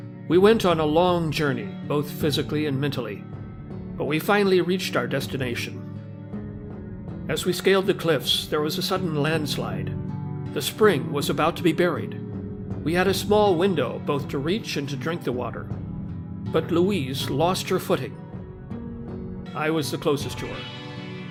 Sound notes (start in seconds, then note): none